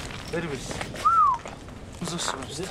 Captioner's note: man whistles